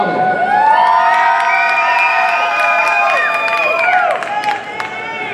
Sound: audience cheering

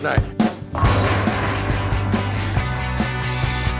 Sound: bowling sfx

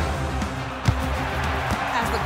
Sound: crowd cheering; epic music

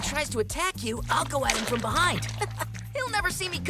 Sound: chuckles

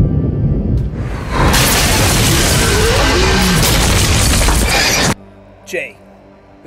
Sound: thunder sounds; crash and monster sounds

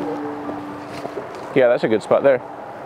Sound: suspenseful light classical music continuing; footsteps on leaves crunching

